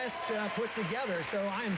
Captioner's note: applause